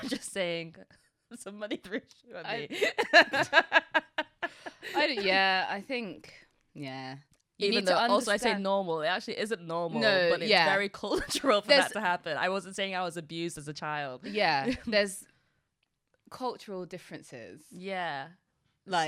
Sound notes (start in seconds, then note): 2.7 laughs